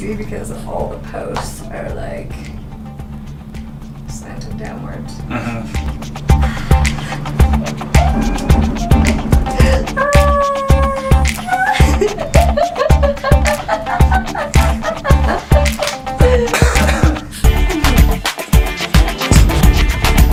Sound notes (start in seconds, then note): 11.4 giggling